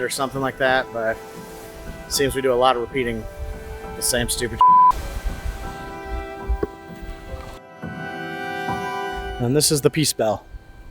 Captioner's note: beep; soft music